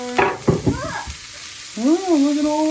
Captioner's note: sizzling